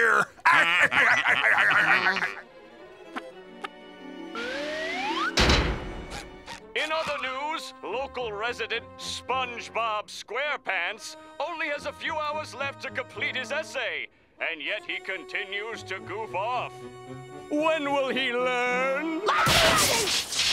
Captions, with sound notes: [laughing] [door thudding] In other news, local resident SpongeBob SquarePants only has a few hours left to complete his essay, and yet he continues to goof off. When will he learn? Hi-yah!